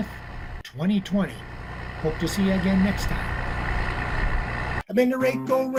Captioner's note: diesel engine sound; diesel engine sound